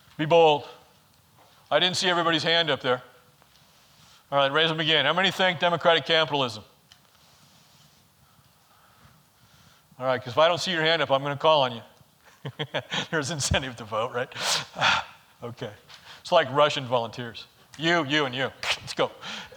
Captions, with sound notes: Be bold, I didn't see everybody's hand up there. Alright, raise them again. How many think democratic capitalism? Alright, 'cause if I don't see your hand up, I'm gonna call on you. (laughs) There's incentive to vote, right? It's like Russian volunteers, you, you, and you, let's go.